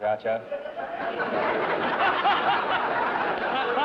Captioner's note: laughter